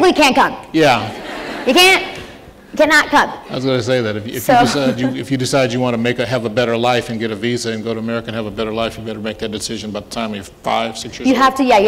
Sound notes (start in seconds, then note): 1.0 laughter